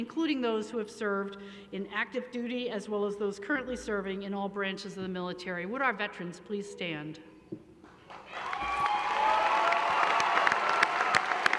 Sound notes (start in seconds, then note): 8.0 applause